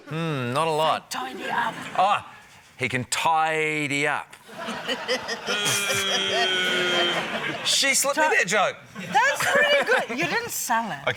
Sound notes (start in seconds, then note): 4.6 chuckles; 4.7 scattered laughter